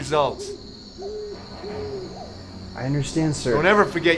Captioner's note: owl hooting